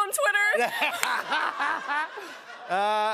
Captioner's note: laughter